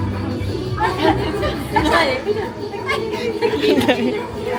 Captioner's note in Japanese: 笑い